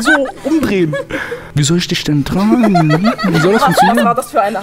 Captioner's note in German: Gelächter